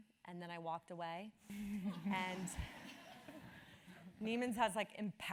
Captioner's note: laugh